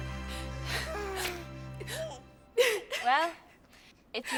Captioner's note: Trudy crying